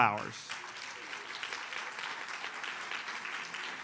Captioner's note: audience applauds